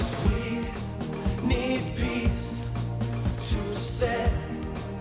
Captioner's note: none